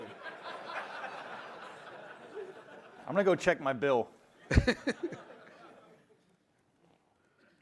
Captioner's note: laughter